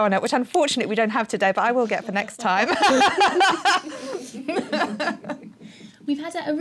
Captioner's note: laughing